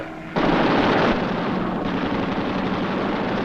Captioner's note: guns firing